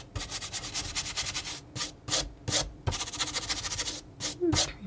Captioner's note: scratching